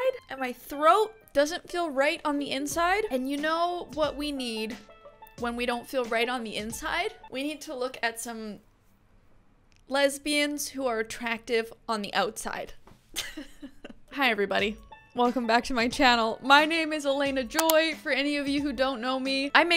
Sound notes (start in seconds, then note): 13.1 light laughter